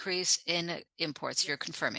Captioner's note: speaking French